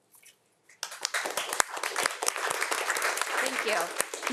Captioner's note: audience applauding